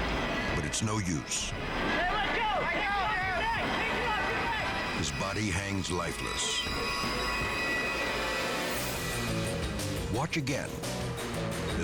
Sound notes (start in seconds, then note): 1.8 people yelling; 8.1 dramatic music